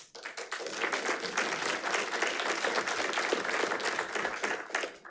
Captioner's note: attendees applauding